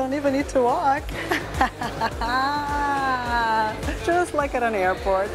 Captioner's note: laughs